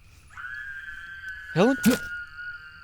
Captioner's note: Helen screaming; gasping